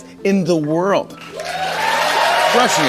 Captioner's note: audience applauding